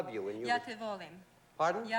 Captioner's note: speaking yugoslav